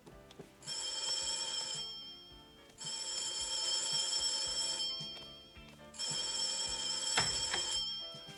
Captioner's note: bell sounds repeatedly